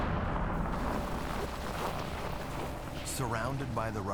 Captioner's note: explosions